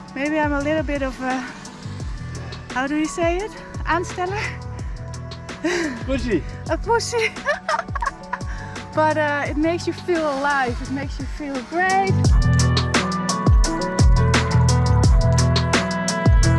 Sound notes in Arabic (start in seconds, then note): 4.2 تتحدث بلغة أجنبية; 7.2 يضحك; 12.8 موسيقى مبهجة